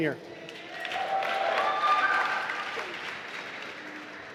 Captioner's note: applause